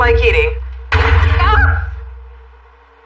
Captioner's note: gunshot